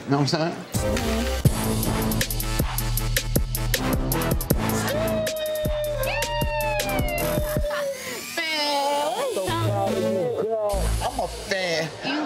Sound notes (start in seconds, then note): 1.7 upbeat hip hop music; 7.1 laughs